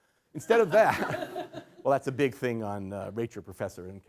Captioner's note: laughter